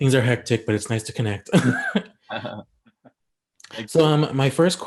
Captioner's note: chuckles